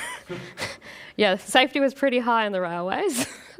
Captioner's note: chuckles; laughs